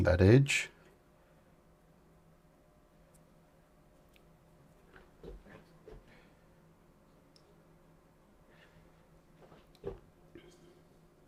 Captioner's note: silence